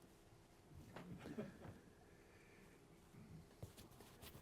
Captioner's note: laughter